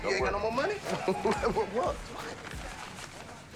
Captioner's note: laughs